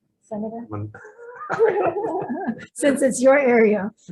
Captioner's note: all laughing